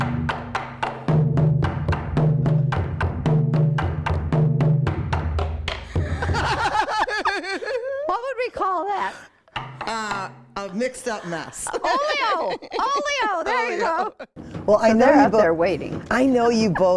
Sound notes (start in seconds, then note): 5.9 laughter; 9.5 tapping